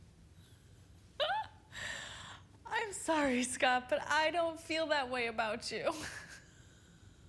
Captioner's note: laughs